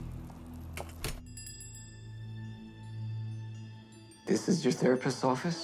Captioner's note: bell dings